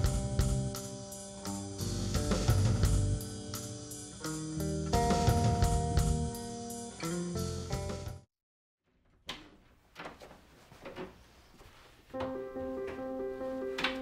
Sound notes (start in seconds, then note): 0.0 rock music; 8.9 door opening; 12.1 piano music